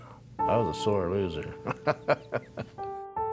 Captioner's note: laughs